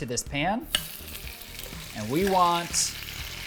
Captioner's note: shrimp sizzling